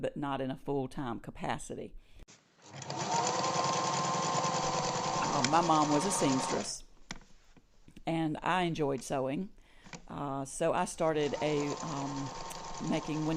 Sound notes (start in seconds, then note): 2.6 sewing machine running